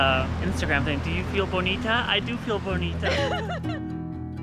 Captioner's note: laughs